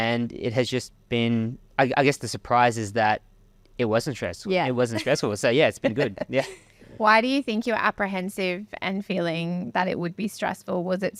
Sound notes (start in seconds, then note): 5.7 laughing